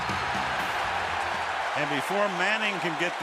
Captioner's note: cheering